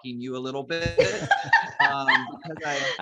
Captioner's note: laughs